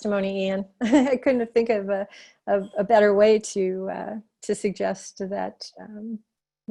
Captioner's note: laughter